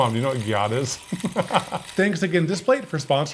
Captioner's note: laughing